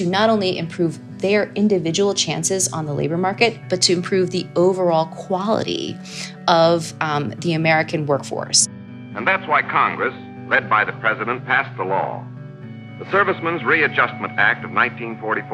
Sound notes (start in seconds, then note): 10.4 soundbite of archived recording